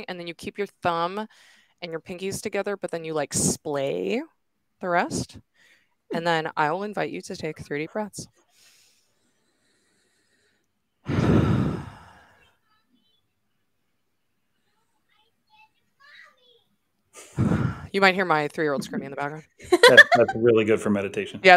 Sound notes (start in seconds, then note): 8.5 all inhaling; 11.0 all exhaling; 11.2 kid talking faintly; 17.2 exhales